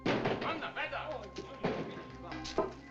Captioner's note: clattering; man Shouts In German